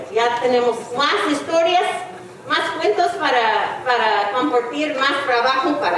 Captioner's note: speaking in foreign language